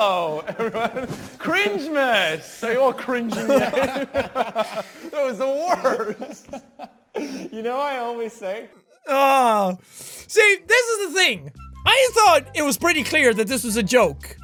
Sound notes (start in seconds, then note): 2.9 laughter